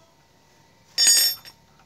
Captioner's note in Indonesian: bunyi kunci